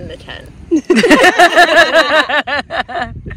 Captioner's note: all laughing